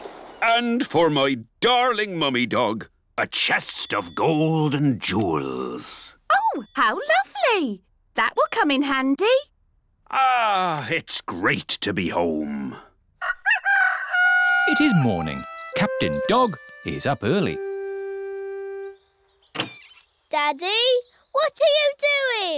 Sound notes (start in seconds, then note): 0.0 waves splashing; 13.2 rooster crowing